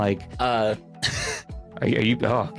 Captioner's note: laughs